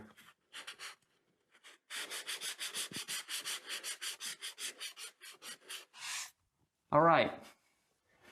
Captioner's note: sanding